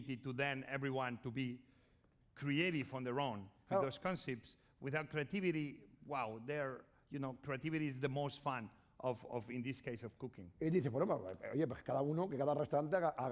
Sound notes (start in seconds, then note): 11.4 speaking spanish